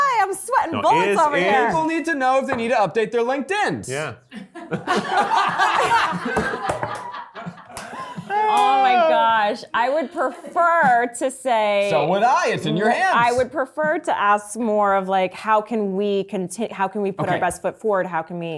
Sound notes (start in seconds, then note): 4.3 cast and crew laughing